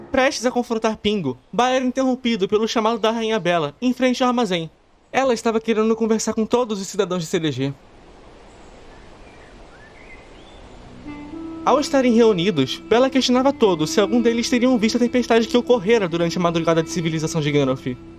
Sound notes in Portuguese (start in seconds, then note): 0.0 Nota musical de suspense evanesce; 7.8 Sons ambiente de pássaro e vento; 10.7 Música de leve suspense